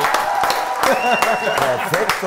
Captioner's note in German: Lachen